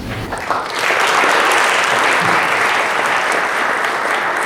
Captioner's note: applause